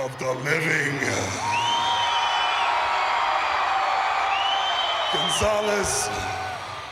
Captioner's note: applause